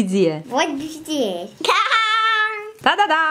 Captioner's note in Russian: детский смех